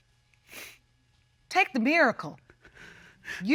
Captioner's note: sniffles